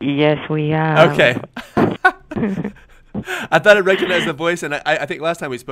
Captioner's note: laughs